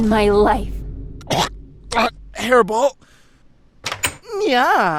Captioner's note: cough